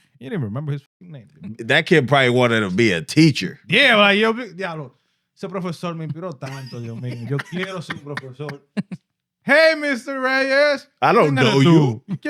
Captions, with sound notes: He didn't remember his name. That kid probably wanted to be a teacher. (Speaking In Foreign Language) Hey Mr. Reyes. I don't know you.